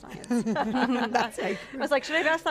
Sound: all laugh

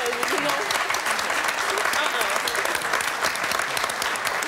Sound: audience clapping

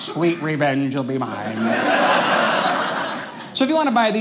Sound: audience laughing

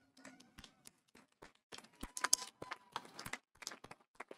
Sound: audience applauding

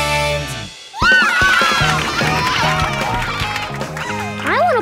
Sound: cheering

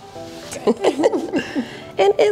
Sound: both laugh

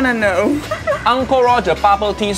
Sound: woman giggling

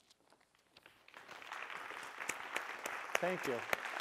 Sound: applause

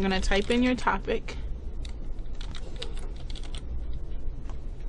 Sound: typing

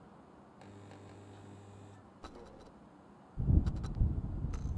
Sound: intermittent buzzing

